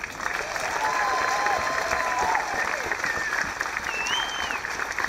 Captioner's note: audience applauding